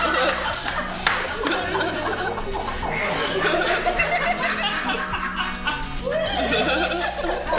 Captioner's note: laughter